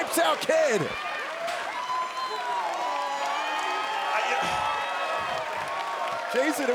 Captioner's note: crowd cheering